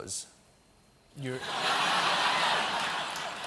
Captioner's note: laughter